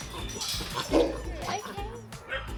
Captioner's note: dog barking